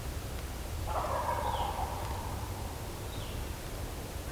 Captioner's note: natural noises; turkey gobbles